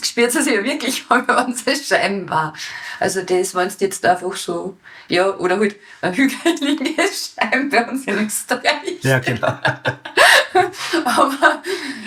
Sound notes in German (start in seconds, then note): 9.0 Lachend